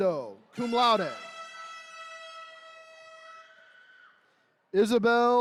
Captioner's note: horns blaring